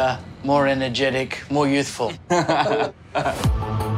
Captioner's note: chuckles